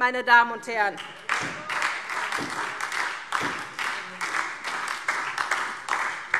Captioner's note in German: Beifall SPD